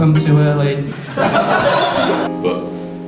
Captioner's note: laughter